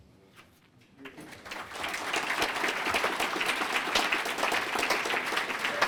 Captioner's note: applause